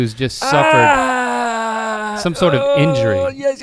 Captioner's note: groans